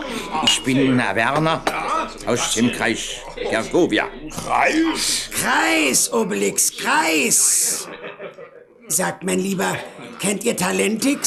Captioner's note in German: gelächter